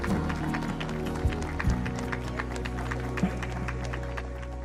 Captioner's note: gentle music; people applause; gentle music fades